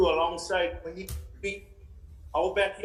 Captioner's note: interference cuts off speaker